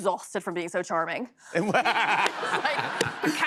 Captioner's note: laughter